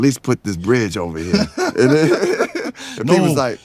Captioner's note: laughing